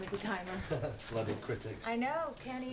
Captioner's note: Rob laughs